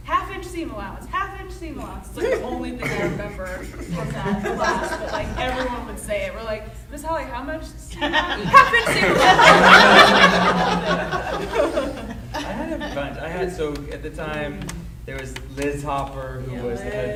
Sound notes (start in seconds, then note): 8.0 laughing drowns out speaker